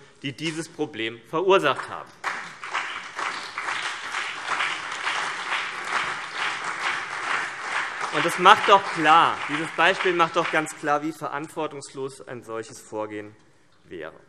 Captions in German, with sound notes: die dieses Problem verursacht haben. [Beifall CDU, BÜNDNIS 90/DIE GRÜNEN, DIE LINKE und vereinzelt SPD] Dieses Beispiel macht doch ganz klar, wie verantwortungslos ein solches Vorgehen wäre.